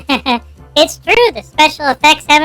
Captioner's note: giggling